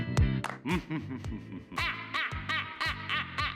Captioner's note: lighthearted music; laughing; crows